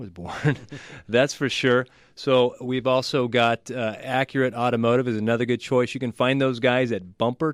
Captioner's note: both laugh